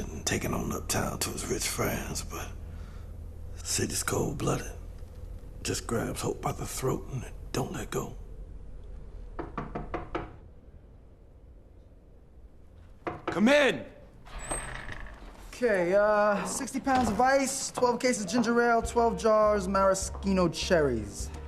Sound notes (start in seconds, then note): 9.3 knocking on door